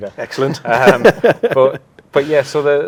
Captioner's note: laughing